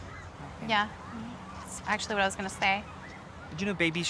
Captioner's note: none